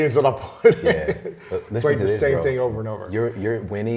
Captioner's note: laughs